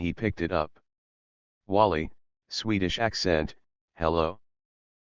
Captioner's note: swedish Accent